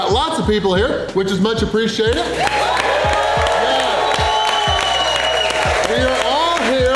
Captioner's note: crowd clapping and cheering